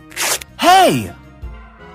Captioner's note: normal voice